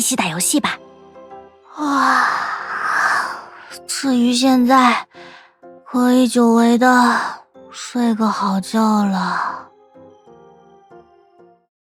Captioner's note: yawn